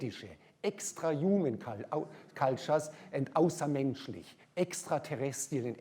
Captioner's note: german; german